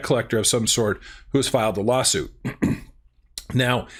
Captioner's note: clears throat